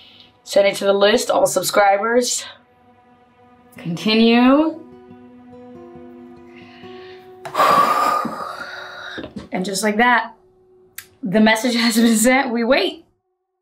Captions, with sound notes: send it to the list, all subscribers, continue. (deep breath) And just like that, the message has been sent, we wait.